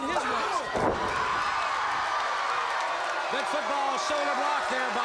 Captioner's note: crowd cheering